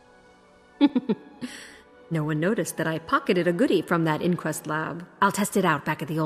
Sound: snicker

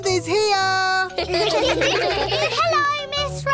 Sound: children giggle

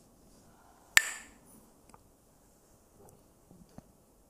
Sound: clacks the sticks

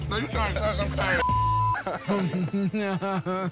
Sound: chuckles

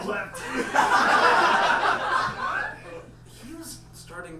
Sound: audience laughs

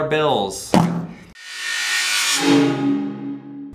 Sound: popping

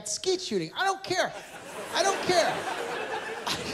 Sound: laughter

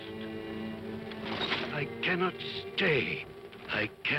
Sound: chains rattle

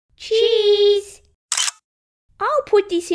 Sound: click!

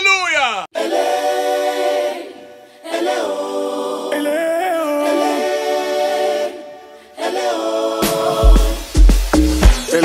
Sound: exclamation

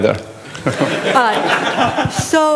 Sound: laughter

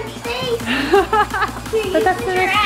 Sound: laughs

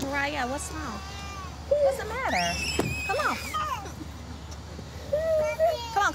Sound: crying

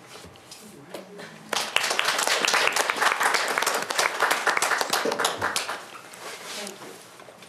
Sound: applause

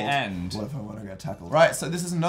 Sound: deep voice

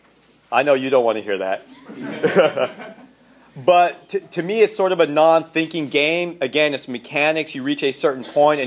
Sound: laughter

